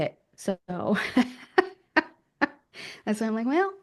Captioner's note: laughs